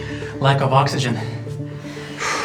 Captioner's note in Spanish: exhala